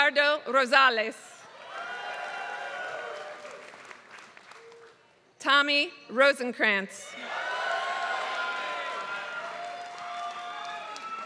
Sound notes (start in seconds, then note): 0.0 applause